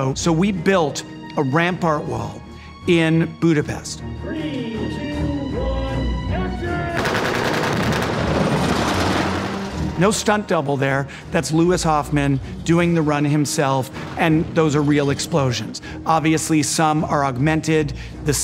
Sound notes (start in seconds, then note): 7.0 explosions blasting; 7.0 guns firing